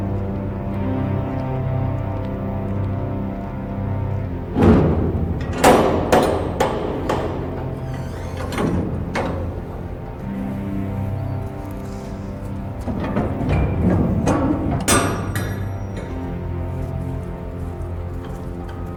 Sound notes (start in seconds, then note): 4.7 latch clunks; 8.0 door creaks; 13.3 latch clunks